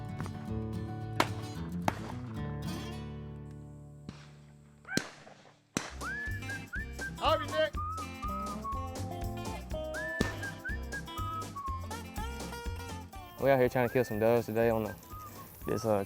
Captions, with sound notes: (loud sporadic gun shots) (excited shout) - We out here tryin' to kill some doves today